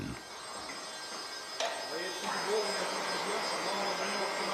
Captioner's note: snatches of words, screeching of saws